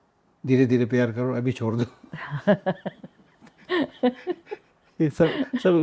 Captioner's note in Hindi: हंसी